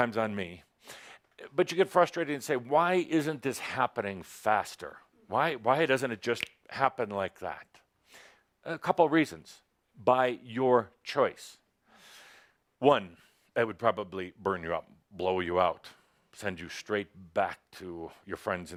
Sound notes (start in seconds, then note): 6.5 snap